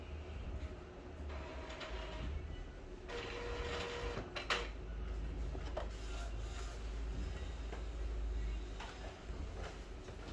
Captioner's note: printer machine sound